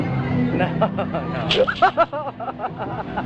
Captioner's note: screams and laughs